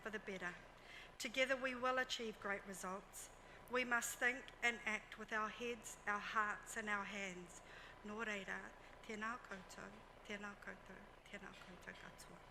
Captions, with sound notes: for the better. Together we will achieve great results. We must think and act with our heads, our hearts and our hands. (speaks foreign language)